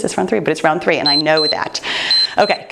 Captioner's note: timer beeps